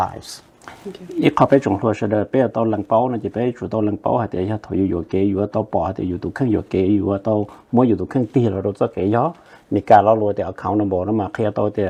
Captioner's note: Speaking in Hmong